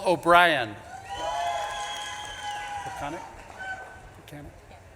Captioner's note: audience claps and cheers